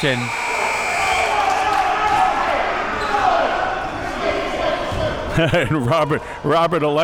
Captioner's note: audience and players chattering and yelling